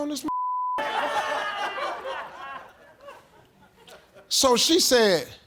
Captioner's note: audience laughing